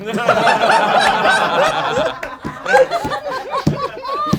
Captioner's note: group laughs